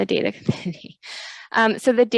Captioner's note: laughs